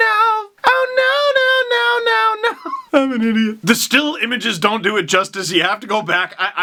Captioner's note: laughs